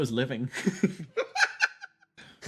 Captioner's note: laughs